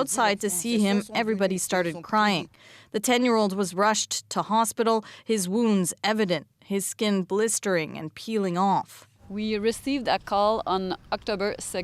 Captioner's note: speaking french